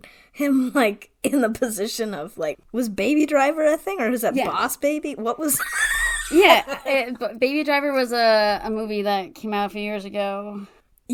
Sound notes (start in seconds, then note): 5.5 laughs